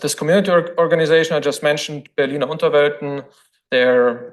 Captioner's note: foreign language